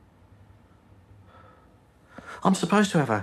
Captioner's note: he exhales, softly